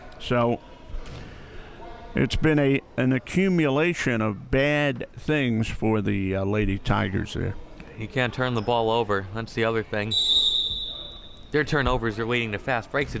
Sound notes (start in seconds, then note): 10.1 whistle chirping